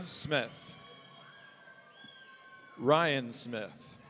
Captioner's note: audience cheering